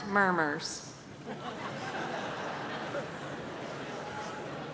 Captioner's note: audience laughs